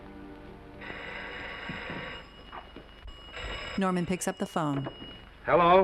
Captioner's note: phone ringing